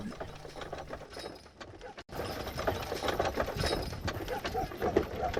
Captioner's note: horse hooves clopping; dog barking